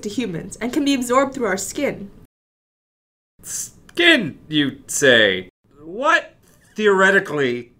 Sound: concerned tone

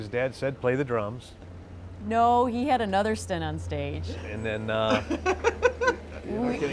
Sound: laughs

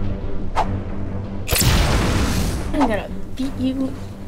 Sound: dramatic music; explosion

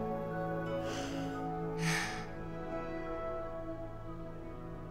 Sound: sigh

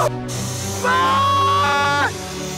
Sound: screaming

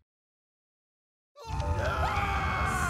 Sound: distant screaming / yelling

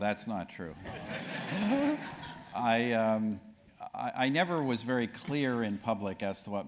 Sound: laugh

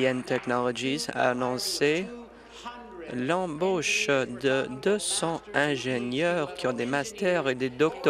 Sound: applause

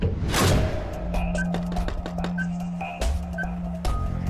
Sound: beeping

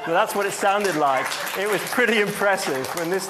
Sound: audience applauds

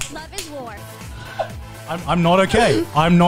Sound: laughs

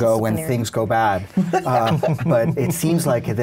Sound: everyone laughs

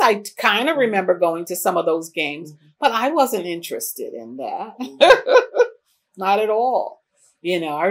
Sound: laughs

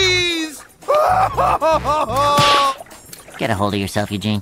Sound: crying; slapping

